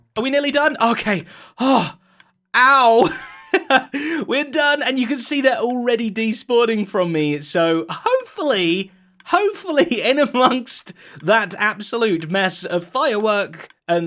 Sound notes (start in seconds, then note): 3.0 laughing